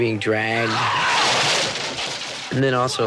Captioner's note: crashes into lumber